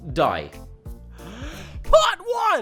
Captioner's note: takes a deep breath